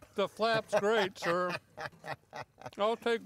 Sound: laughing

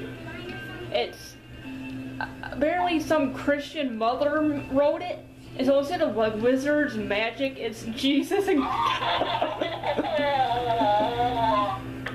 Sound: laughs

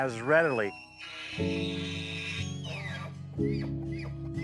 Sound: elk shrieking

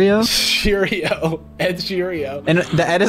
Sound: laughs

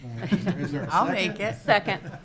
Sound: members giggling

